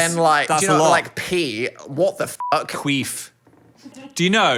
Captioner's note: beep